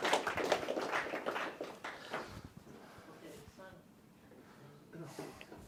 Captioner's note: applause